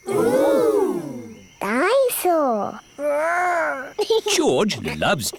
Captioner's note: giggles